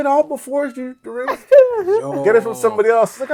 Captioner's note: laughing